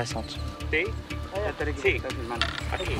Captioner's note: Spanish language